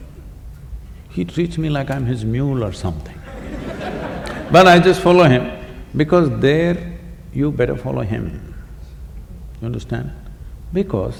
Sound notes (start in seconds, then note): 3.2 laughter